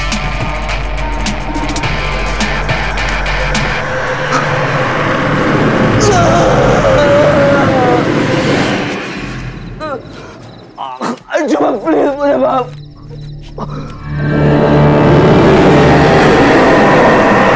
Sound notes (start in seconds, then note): 6.1 ghastly voice; 15.6 ghostly voice